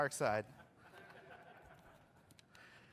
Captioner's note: laughter